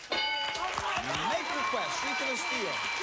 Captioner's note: cheers and applause